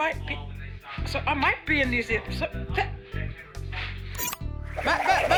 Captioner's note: stammers